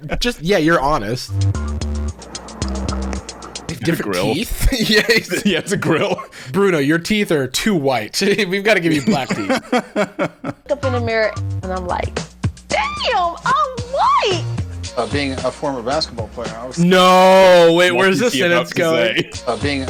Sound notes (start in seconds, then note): 1.6 upbeat music; 8.7 laughing